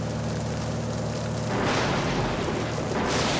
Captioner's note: thunderclap